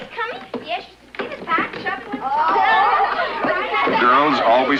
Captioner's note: giggling and chattering